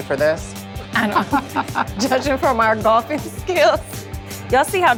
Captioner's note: laughs